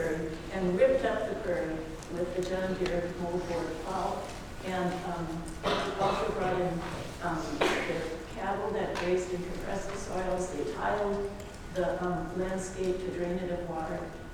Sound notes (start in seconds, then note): 5.6 coughing